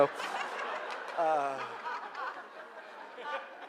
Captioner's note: audience laughing